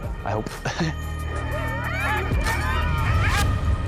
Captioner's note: dogs yelping